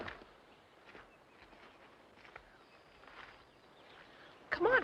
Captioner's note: birds chirping